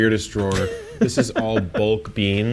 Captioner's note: laughs